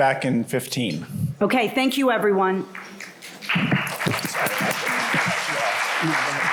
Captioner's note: applause